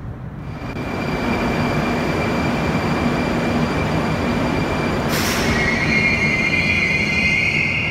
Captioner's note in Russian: прибытие поезда на станцию